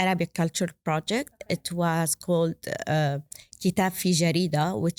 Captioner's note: arabic